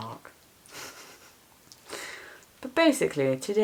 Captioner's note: laughs